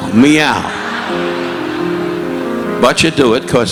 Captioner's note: audience laughing